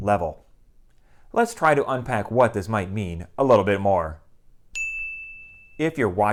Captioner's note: chime